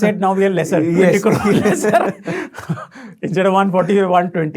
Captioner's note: laughing